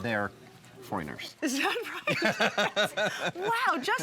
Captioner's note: laughs